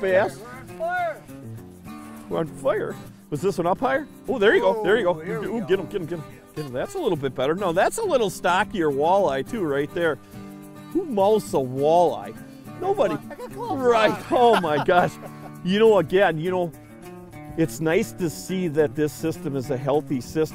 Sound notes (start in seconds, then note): 13.0 laughs